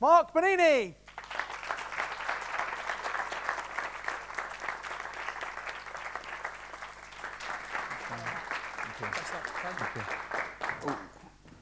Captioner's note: applause